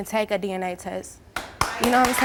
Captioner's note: applause